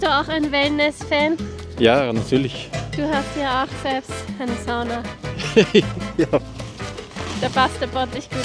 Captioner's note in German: gelächter